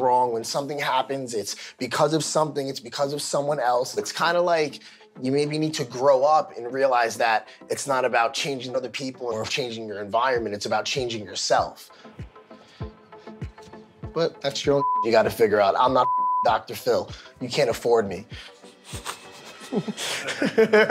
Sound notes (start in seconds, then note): 14.8 beep; 18.9 laughs